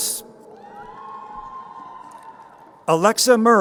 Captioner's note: crowd cheering